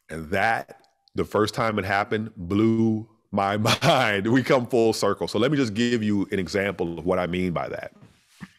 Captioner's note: laughter